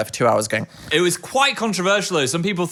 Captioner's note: imitates snoring